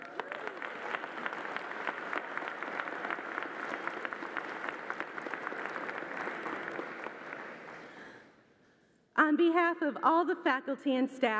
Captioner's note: applause